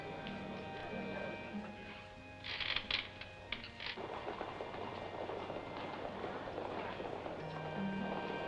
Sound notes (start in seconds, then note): 3.7 horses hooves approaching